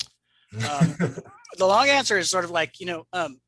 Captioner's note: laughs